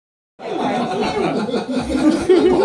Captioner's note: cat doesn't want that cheese and people are laughing